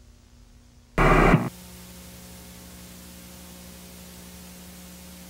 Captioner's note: static crackles